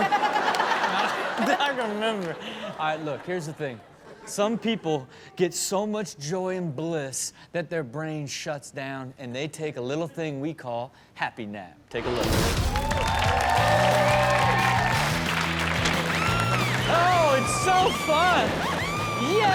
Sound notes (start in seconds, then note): 0.0 audience laughs; 12.5 audience cheers; 13.2 upbeat music; 16.9 woman screams